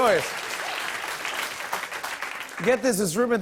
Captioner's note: applause